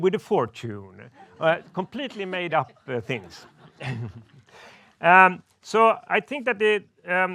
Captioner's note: laughs